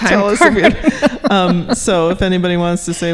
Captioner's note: laughing